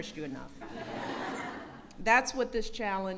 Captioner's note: laughter